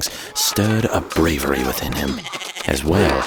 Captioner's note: goat bleating